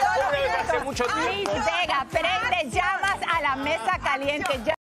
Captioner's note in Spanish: risas